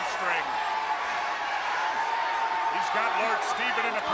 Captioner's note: crowd chatter